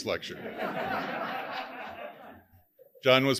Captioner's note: audience laughing